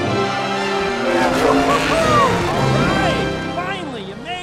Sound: cheers

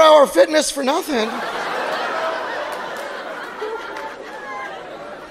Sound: audience laughing

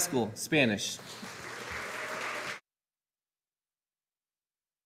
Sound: audience applauding

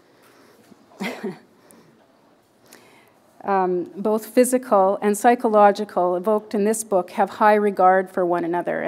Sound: chuckle

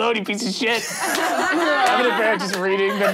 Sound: laughing

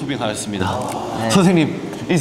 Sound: nom nom nom

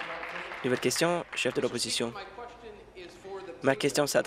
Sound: applause

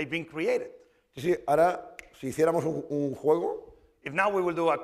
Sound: speaking spanish

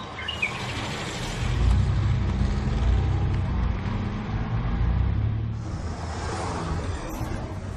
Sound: revving car engine

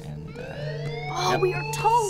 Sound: sirens blaring

